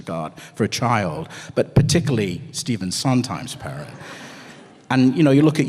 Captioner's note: laughter